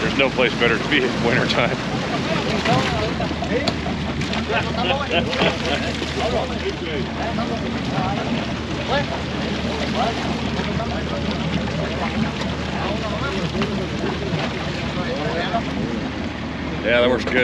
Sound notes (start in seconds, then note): 2.6 splashing; 4.1 background chatter